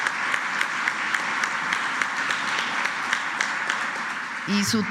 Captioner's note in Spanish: aplausos